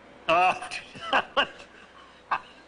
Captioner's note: laughing; guffawing